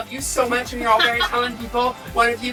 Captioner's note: laughing